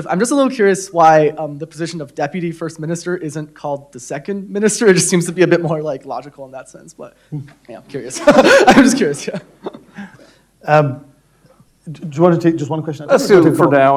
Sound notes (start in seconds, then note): 8.1 laughs